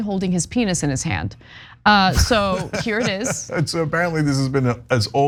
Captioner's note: laugh